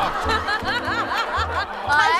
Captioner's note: haha